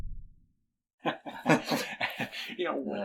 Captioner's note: both chuckle